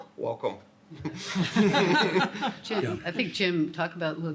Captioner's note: laughter